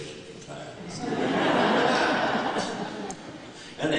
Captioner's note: laughter